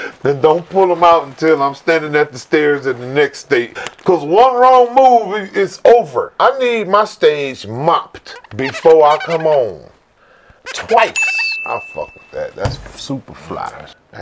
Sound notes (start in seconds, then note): 0.0 laughing; 10.6 cleanly squeaking; 10.8 sparkly dinging